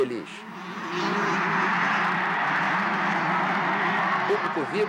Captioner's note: crowd cheering in support